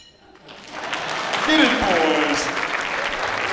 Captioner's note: clapping